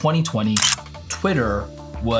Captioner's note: camera shutter clicking